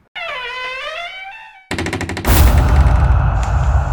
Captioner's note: door opening